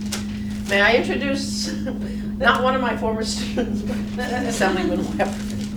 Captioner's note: laughing